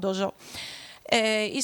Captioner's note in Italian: sighit